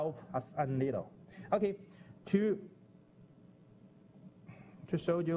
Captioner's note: pause